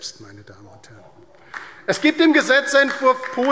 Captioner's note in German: Beifall DIE LINKE